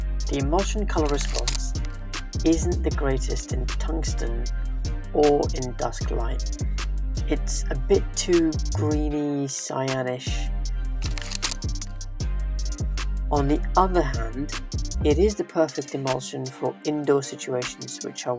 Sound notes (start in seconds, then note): 11.0 camera shuttering